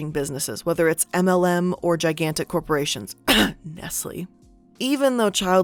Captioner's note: coughs